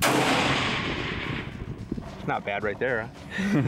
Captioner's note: gunshot